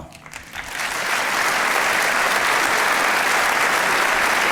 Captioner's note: audience applauding